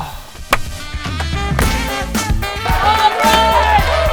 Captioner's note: clapping